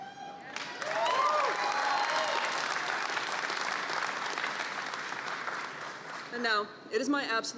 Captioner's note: applause